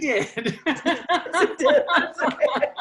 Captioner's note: laughs